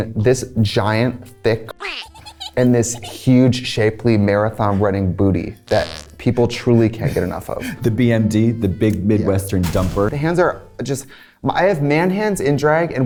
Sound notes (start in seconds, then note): 1.7 giggling; 5.6 farts; 9.6 truck thuds